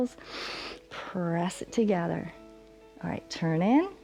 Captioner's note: inhales